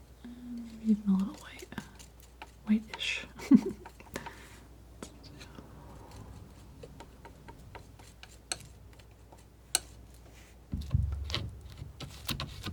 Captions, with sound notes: Even a little whitish [laughing] [scratching]